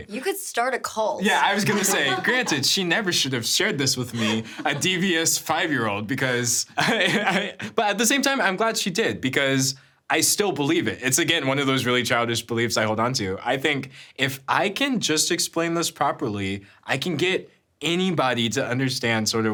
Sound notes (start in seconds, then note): 1.2 laughing; 7.2 laughs